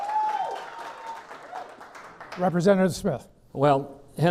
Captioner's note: clapping